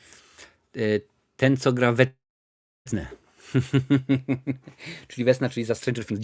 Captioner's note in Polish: śmiech